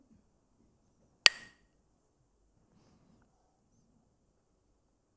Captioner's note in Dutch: klakt met stokjes